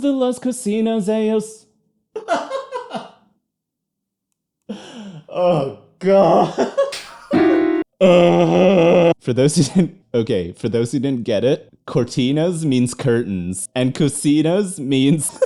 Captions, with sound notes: [Laughter] Oh, God! [Laughter] Ugh! For those who didn't... Okay, for those who didn't get it, "cortinas" means curtains. And "cocinas" means...